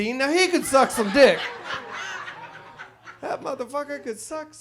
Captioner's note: audience laughs